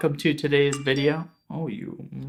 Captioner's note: message chime